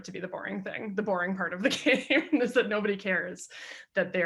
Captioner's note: chuckles